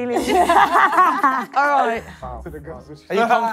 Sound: contestants laughing

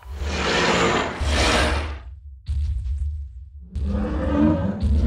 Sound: dinosaur roaring loudly

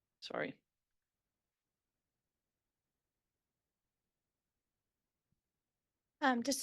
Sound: audio cuts out

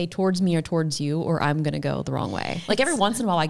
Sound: chuckles

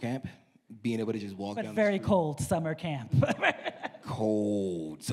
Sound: laughs

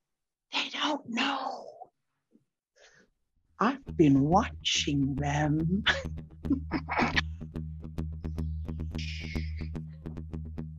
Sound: laughter

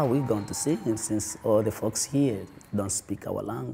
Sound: cheers and applause

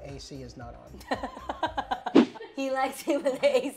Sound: laughing

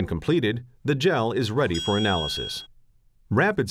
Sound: chime

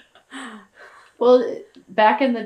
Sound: laughter

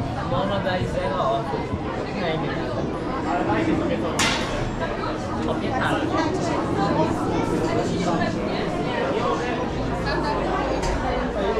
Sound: street noise

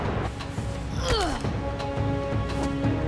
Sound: grunting

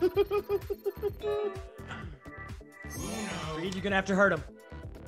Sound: laugh

